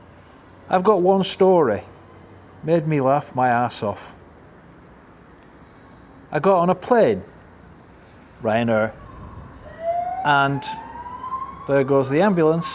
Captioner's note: siren